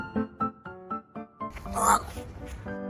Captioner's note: elugh